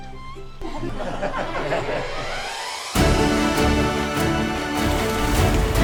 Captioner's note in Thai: เสียงหัวเราะ